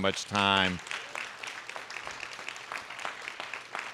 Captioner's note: applause